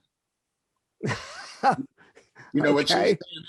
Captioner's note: laughs